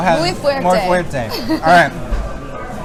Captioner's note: laughs